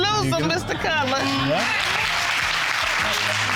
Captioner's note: audience applauds